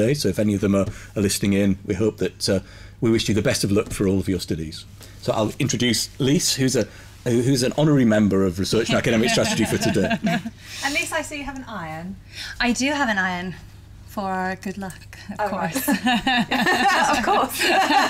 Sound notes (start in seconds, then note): 8.9 laughs; 15.7 laughter